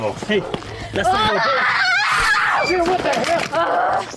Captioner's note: Mia screaming and running